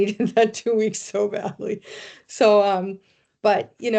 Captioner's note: chuckling